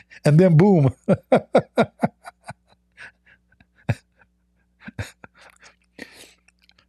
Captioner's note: Ketawa